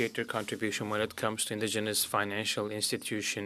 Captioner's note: speaking French